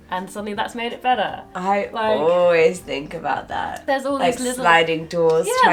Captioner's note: none